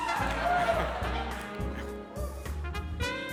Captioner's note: cheering